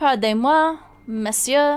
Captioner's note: speaking in foreign language